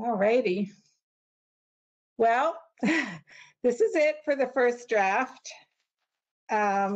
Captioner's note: laughter